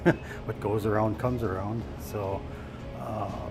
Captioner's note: chuckles